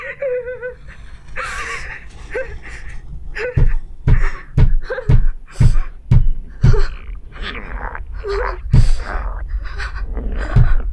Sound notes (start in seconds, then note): 3.3 loud knocking; 8.0 steady knocking and grumbling from monster